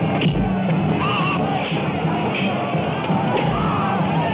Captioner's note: men screaming